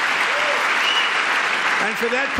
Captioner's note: applause